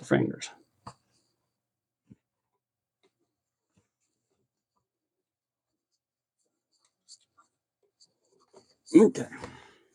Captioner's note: silence